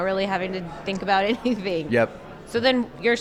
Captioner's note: chuckles